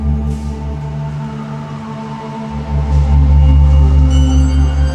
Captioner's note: siren wailing